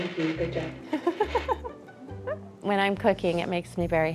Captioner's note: laughter